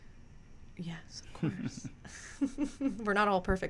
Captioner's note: laughing